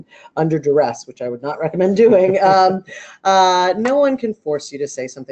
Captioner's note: laughing